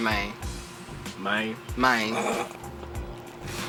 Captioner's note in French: en imitant l'accent de Josh